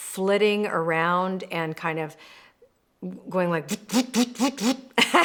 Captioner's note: mimics zipping